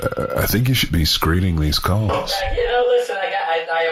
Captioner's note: phone ringing